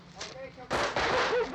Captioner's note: gun firing